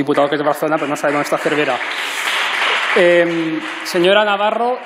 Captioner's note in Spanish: Aplausos